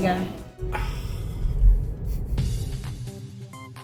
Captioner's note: exasperated sighing; gentle upbeat electronic music